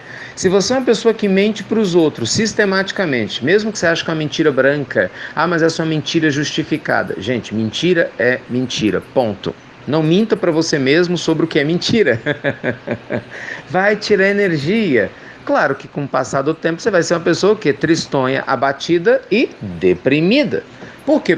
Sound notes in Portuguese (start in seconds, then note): 12.0 Risos